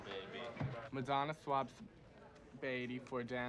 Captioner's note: none